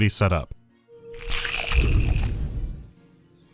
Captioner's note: shlurp